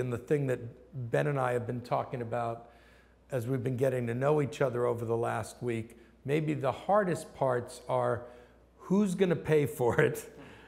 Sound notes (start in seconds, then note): none